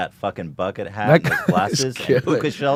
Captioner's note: laughs